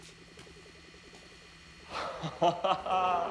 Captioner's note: laughing